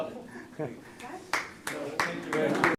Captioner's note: applause